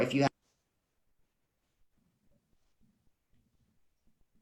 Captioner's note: sound cuts off abruptly